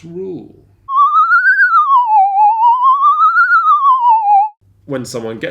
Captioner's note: warbling whistle